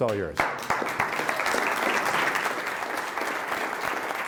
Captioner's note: applause